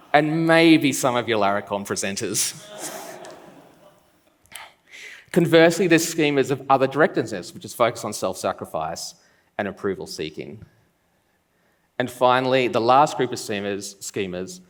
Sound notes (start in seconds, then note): 2.4 laughs